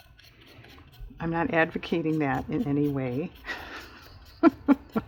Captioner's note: laughs